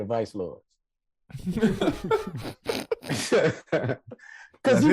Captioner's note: hosts laughing